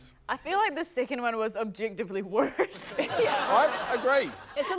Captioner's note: laughter